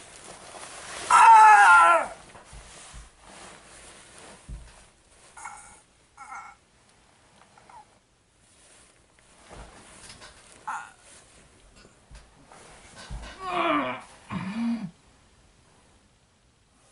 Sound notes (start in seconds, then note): 13.3 muffled struggling